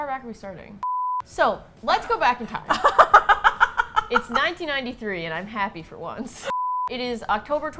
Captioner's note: laughs